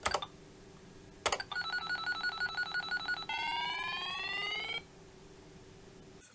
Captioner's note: beeping